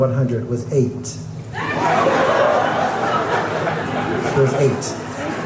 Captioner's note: crowd laughing